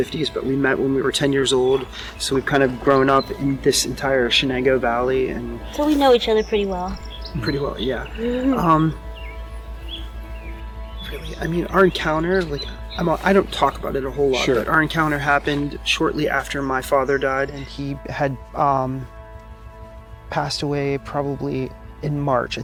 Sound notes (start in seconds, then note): 8.7 birds chirping